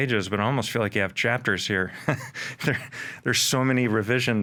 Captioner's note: chuckles